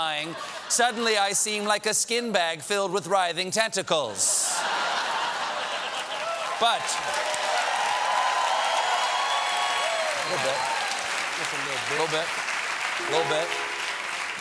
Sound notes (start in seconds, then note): 4.4 laughter; 4.5 applause; 4.6 cheers